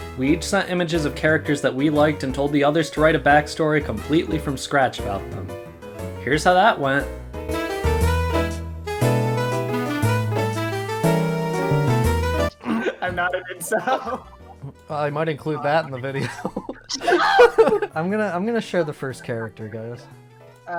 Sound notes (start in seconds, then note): 7.6 upbeat jazz; 12.5 laughing; 17.4 laughing